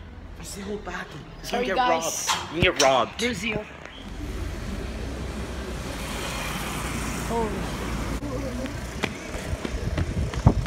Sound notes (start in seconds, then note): 4.1 motercycle zoom